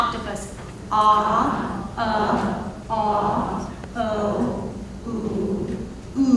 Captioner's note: attendees imitating sounds